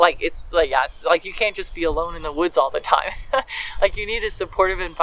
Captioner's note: laugh